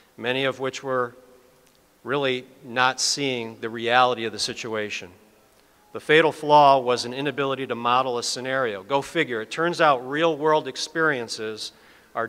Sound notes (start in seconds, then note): none